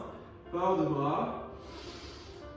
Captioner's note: <i>breathe in</i>